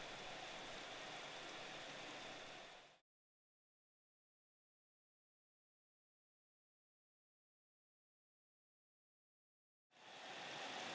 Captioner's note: no audio